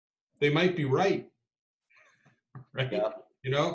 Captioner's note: laughs